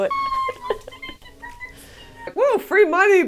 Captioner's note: laughter